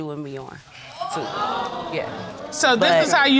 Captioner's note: audience exclaim